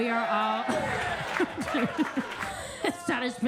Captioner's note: attendees clapping; Kentucky Lightning laughs